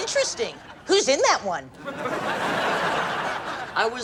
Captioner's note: laughs